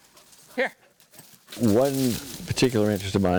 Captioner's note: dog running through the brush